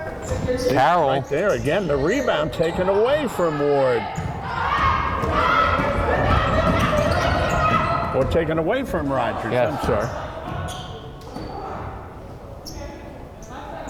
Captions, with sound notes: - Carroll. - She's right there again, the rebound taken away from Ward. (crowd chattering and yelling) Or taken away from Rodgers, I'm sorry. - Yes.